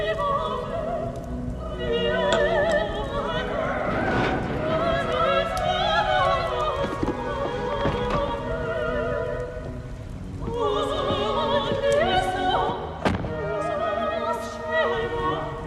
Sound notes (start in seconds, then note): 4.1 crashing